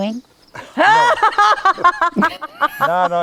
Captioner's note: person laughing